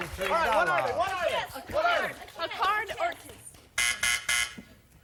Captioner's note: applause